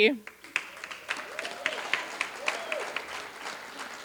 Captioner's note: applause